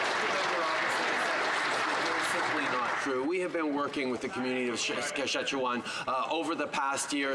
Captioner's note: some Applause